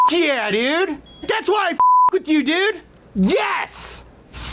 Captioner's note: beep